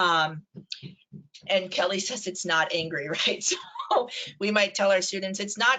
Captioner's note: laughs